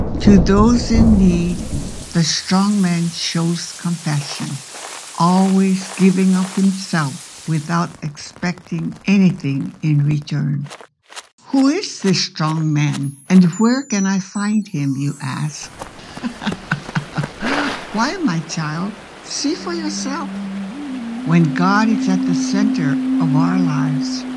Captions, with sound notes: To those in need, the strongman shows compassion. Always giving of himself without expecting anything in return. Who is this strongman and where can I find him you ask? *Laughs* Why my child see for yourself. When God is at the center of our lives,